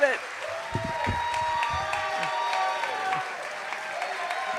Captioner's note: cheers and applause